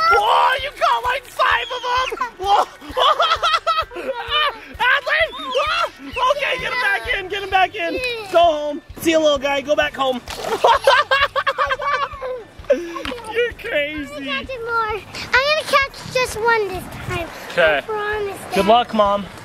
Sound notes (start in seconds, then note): 2.1 shouting; 10.4 laughter